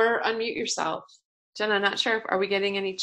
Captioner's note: pause